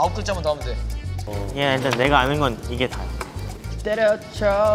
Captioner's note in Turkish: Ses küçülüyor